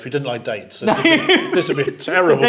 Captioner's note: laughs